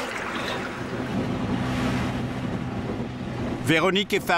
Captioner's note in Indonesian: suara mesin kapal